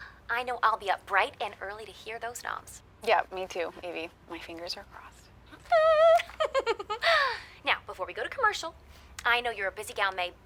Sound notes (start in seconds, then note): 5.6 Evie squeals and laughs